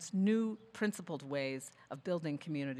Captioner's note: none